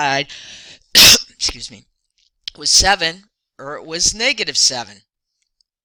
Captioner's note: cough